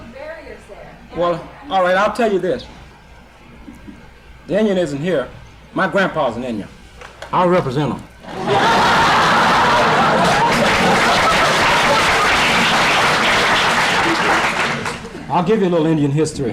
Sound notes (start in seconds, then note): 8.2 laughter and applause